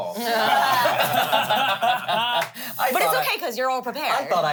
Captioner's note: everyone laughs